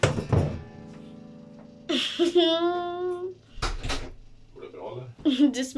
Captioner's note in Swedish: Laughs